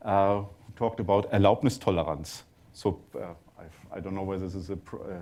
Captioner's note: german